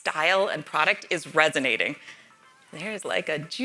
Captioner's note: cellphone ringing